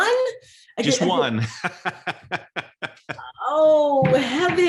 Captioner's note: laughs